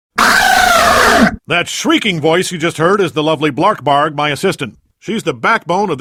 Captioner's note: shrieking sounds